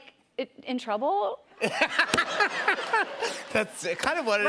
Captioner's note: laughter